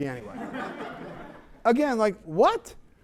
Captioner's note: laughter